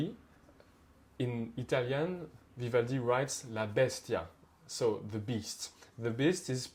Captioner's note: speaks Italian